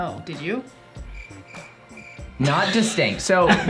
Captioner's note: crickets chirp